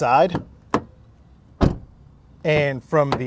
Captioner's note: door slams